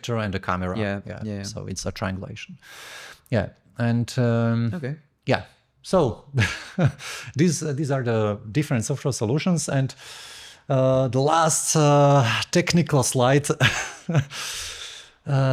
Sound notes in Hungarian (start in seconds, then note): 6.4 nevetés; 13.6 nevetés